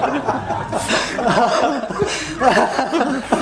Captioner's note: laughter